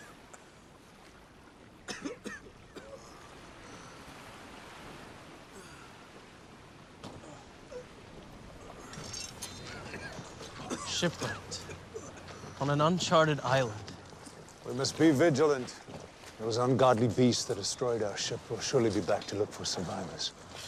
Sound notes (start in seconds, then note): 1.8 men coughing